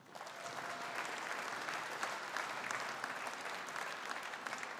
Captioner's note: audience applauding